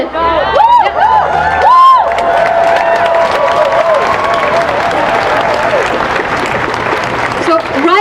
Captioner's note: cheering